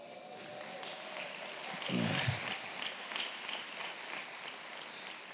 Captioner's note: audience clapping and cheering